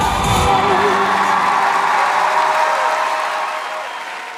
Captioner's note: audience cheering